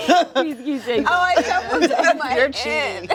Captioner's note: laughs